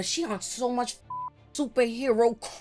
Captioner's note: beep